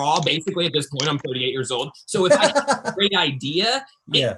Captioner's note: laughs